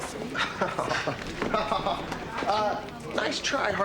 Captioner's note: laughing